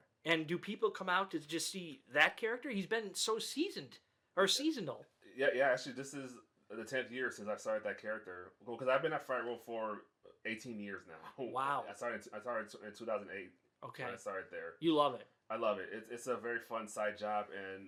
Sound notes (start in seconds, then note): 11.1 laughs